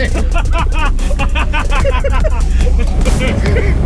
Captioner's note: laughter